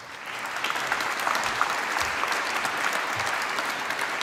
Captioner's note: applause